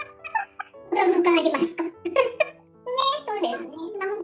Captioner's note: laughs